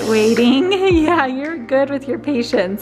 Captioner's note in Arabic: الفتاة الصغيرة تضحك